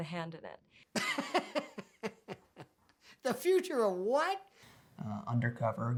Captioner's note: laughs